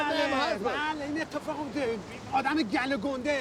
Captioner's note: speaks foreign language